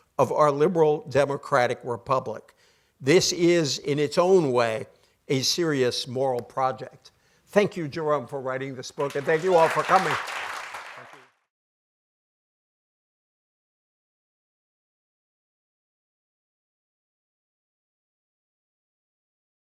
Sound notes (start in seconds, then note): 10.5 audience applauding